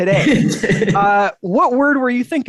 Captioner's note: chuckles